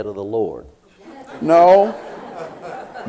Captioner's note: laughter